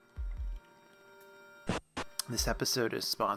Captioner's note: static